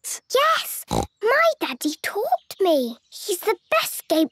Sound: snorts

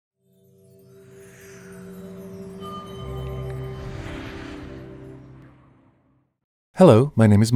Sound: wind and music

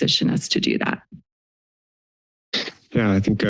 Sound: pause

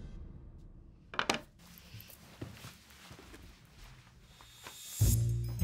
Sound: phone clatters; sneaky music

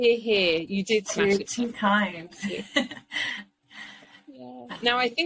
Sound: laughs

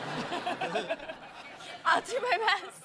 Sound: laughter

